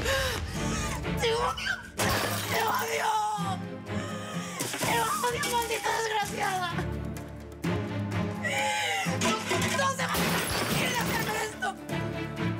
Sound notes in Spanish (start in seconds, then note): 2.2 Estruendo